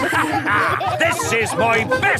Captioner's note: all laughing